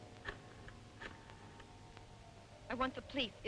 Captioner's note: rotary phone dialing